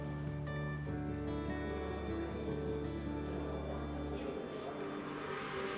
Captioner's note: people chatter indistinctly